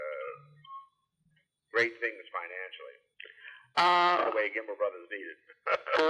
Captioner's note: laughs